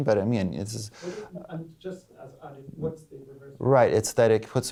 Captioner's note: voiceover